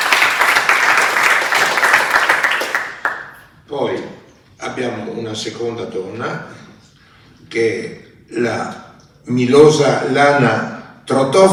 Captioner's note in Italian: Applauso